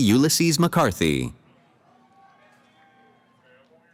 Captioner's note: cheering